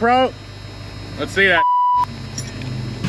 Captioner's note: beep